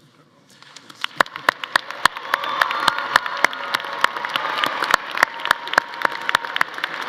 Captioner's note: audience applauding; audience cheering